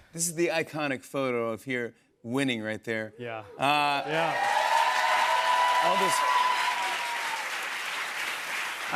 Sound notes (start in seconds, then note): 3.8 cheers and applause